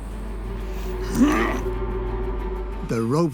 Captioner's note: he grunts